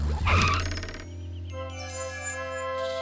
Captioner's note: screeching